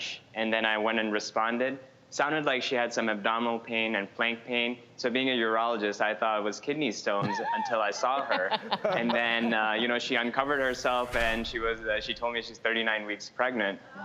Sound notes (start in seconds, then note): 7.2 laughing